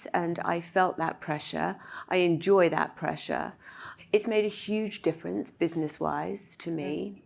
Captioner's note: none